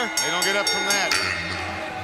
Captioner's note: bell ringing